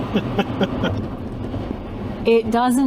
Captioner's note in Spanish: Risas